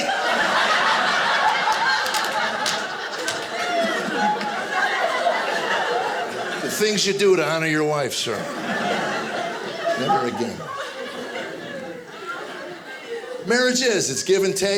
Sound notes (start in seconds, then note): 0.0 audience laughing